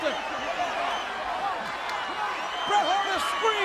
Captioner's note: crowd yelling